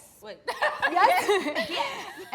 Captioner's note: laughs